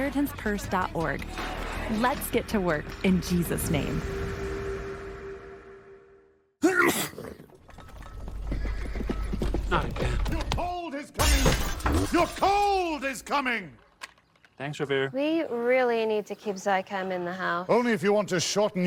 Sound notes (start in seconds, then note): 6.6 sneeze; 9.2 hooves approaching